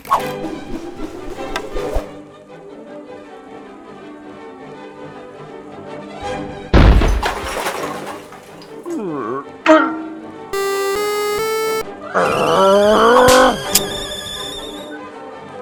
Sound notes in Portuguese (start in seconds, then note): 10.5 Sonzinho de power-up; 10.6 bonk; 12.1 Borbulho de raiva